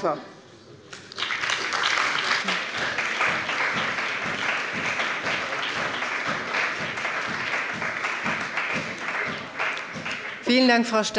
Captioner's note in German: Beifall bei der CDU und dem BÜNDNIS 90/DIE GRÜNEN